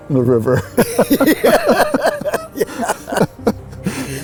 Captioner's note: laughing